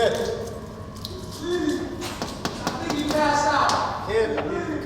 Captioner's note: knocking